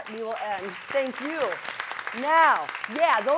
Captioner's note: applause